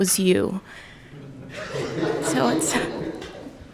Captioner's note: courtroom laughing